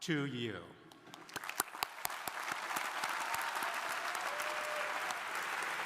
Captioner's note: crowd applauding